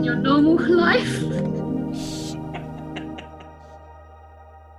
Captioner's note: laughs